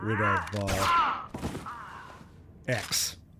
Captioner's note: gunfire